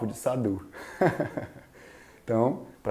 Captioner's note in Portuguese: risos